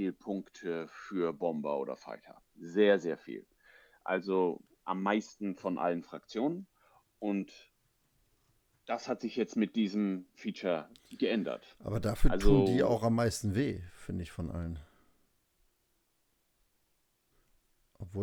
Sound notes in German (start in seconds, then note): none